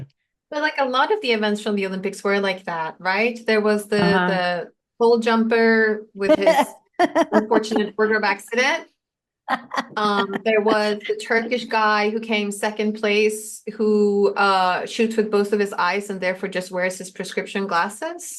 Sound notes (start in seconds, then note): 7.0 laughs